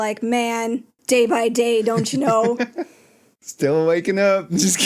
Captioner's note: haha